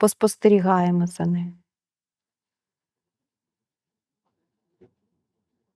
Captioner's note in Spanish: silencio